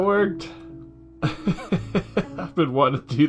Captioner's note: laughs